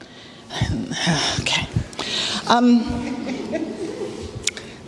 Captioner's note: sigh